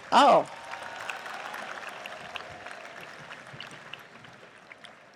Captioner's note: audience applauds